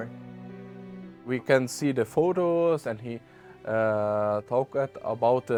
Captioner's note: with German accent